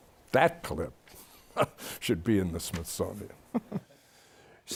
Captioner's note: chuckles